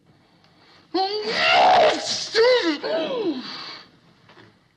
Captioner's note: violent sneeze